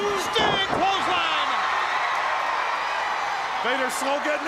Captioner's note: crowd cheering